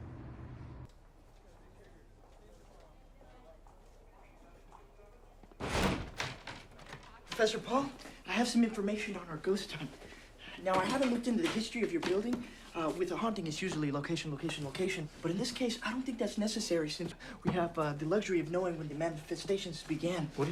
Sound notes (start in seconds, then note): 5.6 door thuds